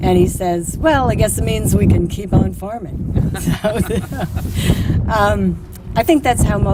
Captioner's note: laughter